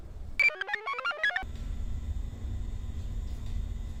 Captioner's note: computer chirps